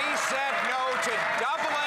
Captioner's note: some Applause